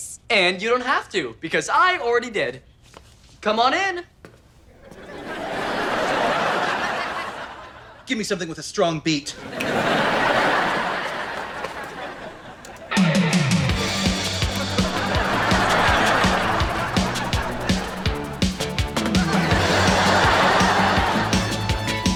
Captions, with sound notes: - And you don't have to, because I already did. - Come on in. (audience laughter) - Give me something with a strong beat. (audience laughter) (dance music) (audience laughter) (dance music)